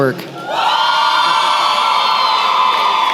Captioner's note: cheering